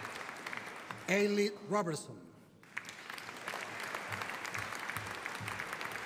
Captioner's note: audience applauding